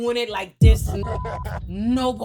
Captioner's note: beep